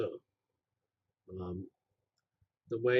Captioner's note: pause